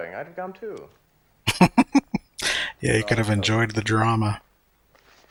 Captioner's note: laughing